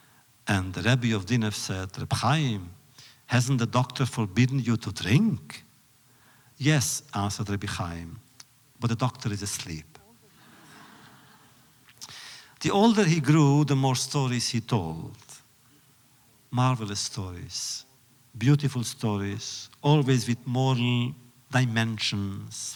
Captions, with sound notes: And the Rebbe of Dinov said, “Reb Chaim, hasn’t the doctor forbidden you to drink?” “Yes,” answered Rebbe Chaim. “But the doctor is asleep.” (laughter) The older he grew, the more stories he told. Marvelous stories. Beautiful stories, always with moral dimensions,